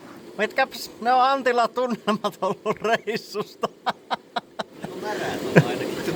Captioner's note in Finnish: naurua